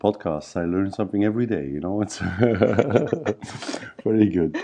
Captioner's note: laughs